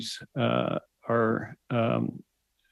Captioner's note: speaking French